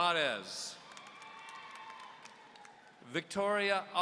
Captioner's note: audience cheering